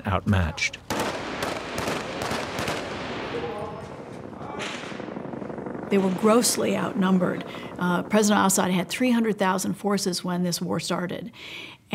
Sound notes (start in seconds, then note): 0.8 gunfire